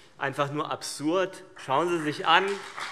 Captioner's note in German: Beifall CDU und BÜNDNIS 90/DIE GRÜNEN